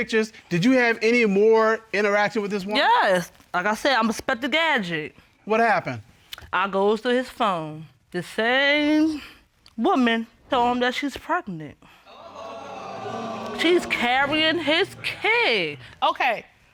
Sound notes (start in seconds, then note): 12.1 audience exclaiming